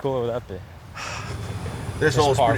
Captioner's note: exhales